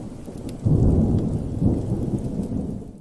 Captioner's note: thunder